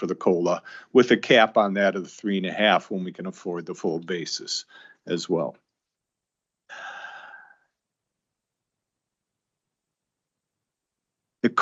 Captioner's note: sighs and gasps